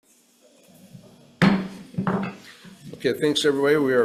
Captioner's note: gavel taps